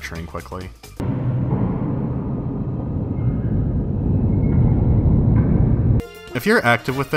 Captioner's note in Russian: звуки заводского цеха